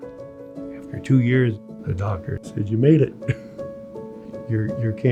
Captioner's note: chuckles